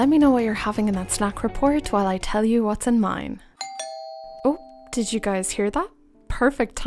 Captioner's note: ding dong